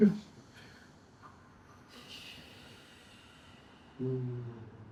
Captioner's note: humming